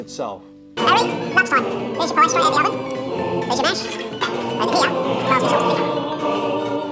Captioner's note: choir harmonizing; sped up talking